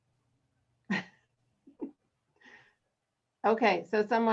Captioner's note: laughs